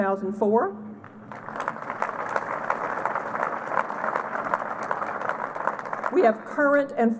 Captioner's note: applause